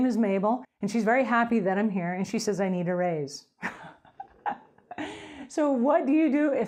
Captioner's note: laughing